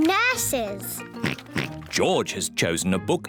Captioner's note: oinks